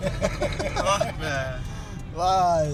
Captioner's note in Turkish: kahkaha